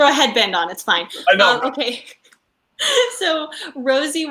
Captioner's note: laughs